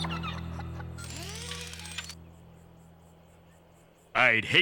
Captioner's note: whirring